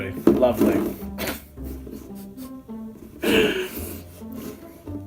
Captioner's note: laugh